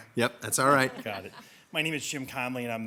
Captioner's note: people chuckle